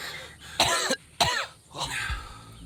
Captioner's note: Lukas coughs